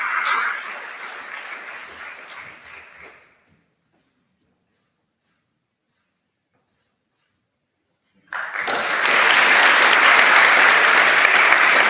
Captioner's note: applause